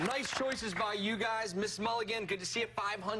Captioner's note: cheers and applause